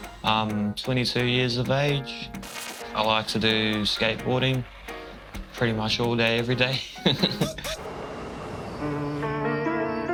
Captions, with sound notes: I'm 22 years of age. I like to do skateboarding, pretty much all day every day. (laughs)